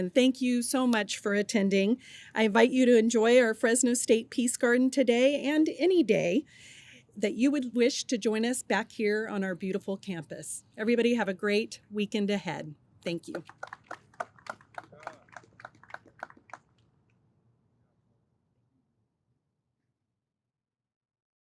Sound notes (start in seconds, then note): 13.2 audience applauds